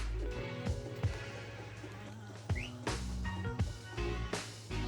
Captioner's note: John whistling his horse